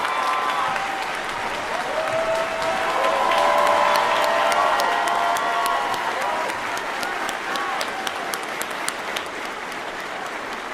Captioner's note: cheers & applause